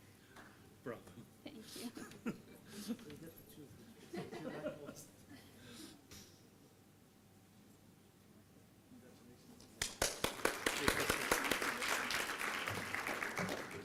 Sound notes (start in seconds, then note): 9.8 applause